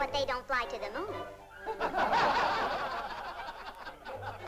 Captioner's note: men laugh